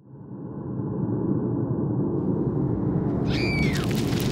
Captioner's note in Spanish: viento aullando; mujer gritando